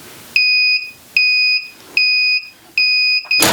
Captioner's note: press beeping